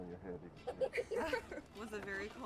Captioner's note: laughing